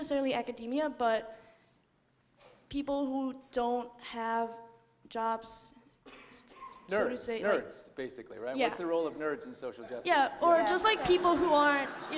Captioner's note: laughter